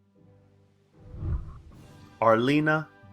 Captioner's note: whooshing